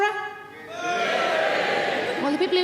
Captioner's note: audience members cheering